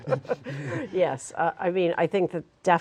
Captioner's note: laughter